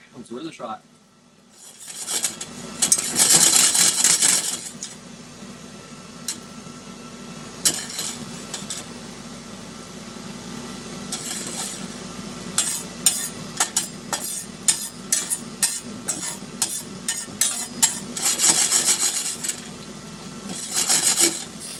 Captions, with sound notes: Let's see where this shot. (mixer whirring) (mixer whirring)